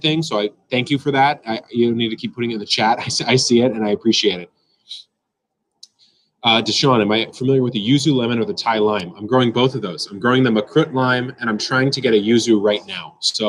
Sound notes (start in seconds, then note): 1.2 laughs